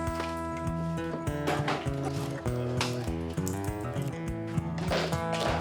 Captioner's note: wood splintering